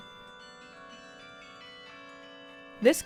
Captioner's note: bells chiming